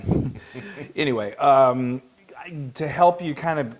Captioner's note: laugh